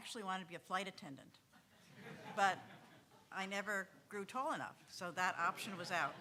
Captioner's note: audience laughing; audience laughing